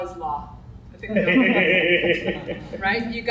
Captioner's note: audience laughs